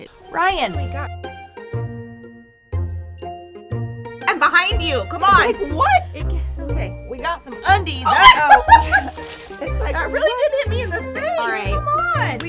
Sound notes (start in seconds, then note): 1.3 whimsical music; 8.1 laughs